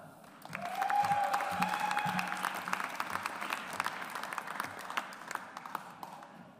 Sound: audience applauds

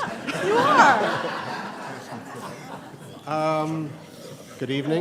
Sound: laughter

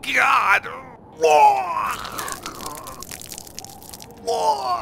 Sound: puking sound

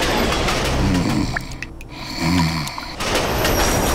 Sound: snoring

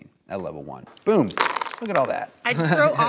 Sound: dice rolls

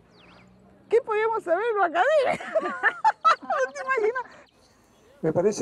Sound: laughs

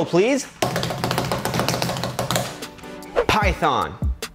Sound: hands tapping

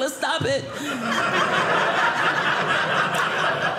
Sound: audience laughing

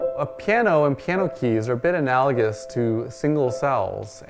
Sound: slow piano music; voiceover

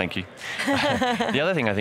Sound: both chuckling

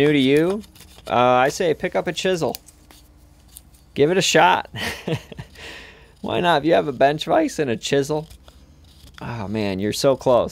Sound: laughs

